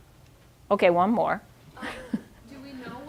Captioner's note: chuckling